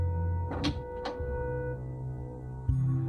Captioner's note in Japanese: 扉を開く音：ガッチャン